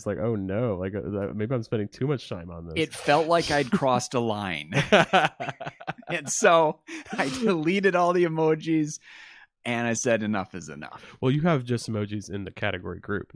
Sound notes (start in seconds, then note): 4.7 laughs